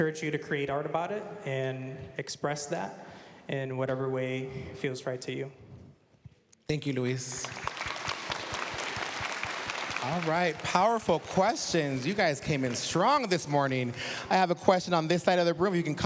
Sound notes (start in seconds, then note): 8.0 applause